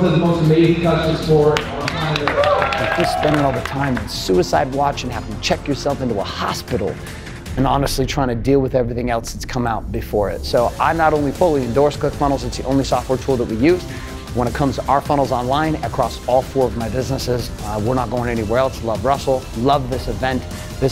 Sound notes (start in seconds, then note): 1.8 cheering